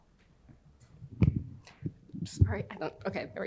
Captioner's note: microphone rattles